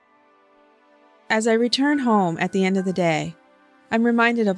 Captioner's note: voiceover